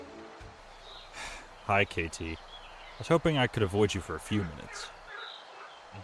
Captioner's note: sighing